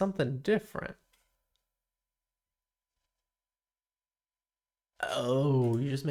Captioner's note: silence